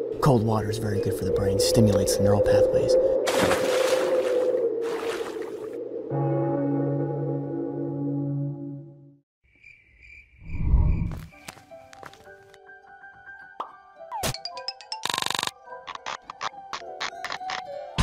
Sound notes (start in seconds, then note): 3.1 splash; 5.9 death bell tolls; 9.4 crickets chirping